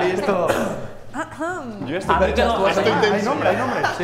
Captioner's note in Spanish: carraspea